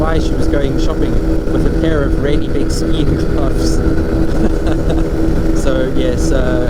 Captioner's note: laughs